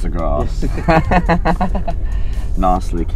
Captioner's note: laughter